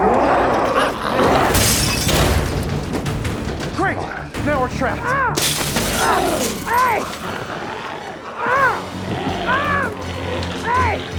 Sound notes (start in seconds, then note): 0.0 Smelly roars; 1.4 glass shatters; 5.3 glass shatters; 6.7 screams; 8.8 Tector screaming